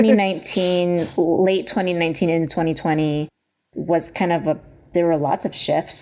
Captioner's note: chuckles